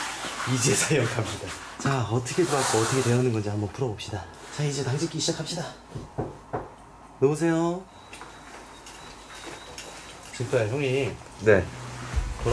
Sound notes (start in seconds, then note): 5.9 knocking